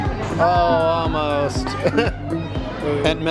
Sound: chuckling

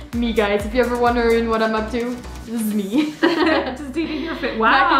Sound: laughs

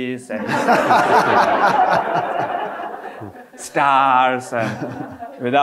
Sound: audience laughing

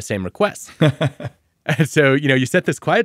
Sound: laughing

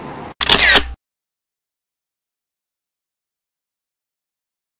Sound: camera shutters

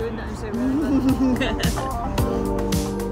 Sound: laughs

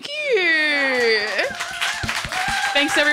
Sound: audience applauding

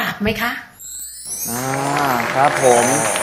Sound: clapping sound

